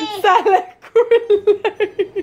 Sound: laughing

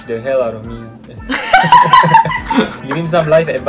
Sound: laughs

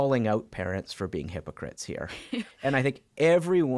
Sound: chuckling

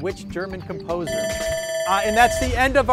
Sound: bell dings

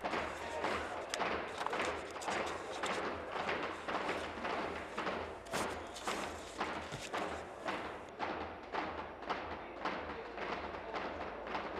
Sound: tapping of desks

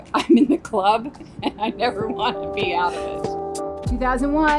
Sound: giggles

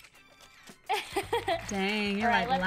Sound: laughs

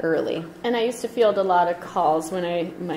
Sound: voiceover

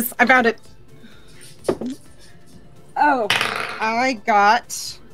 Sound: dice rolling

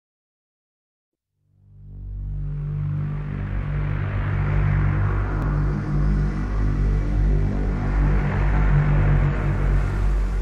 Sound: sound of rising

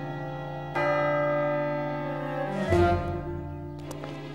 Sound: clock strikes

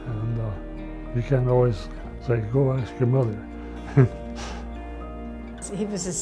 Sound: laughs

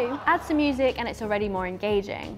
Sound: audience laughing

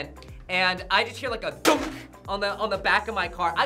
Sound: none

